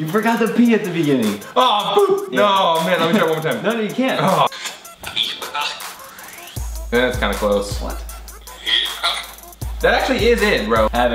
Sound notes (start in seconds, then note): 4.7 groans